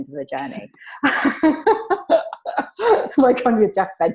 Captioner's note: laughing